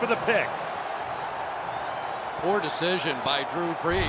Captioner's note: cheering